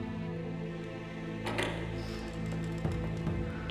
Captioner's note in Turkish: Kapı açılma sesi